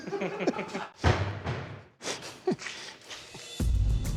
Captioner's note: laughter; thud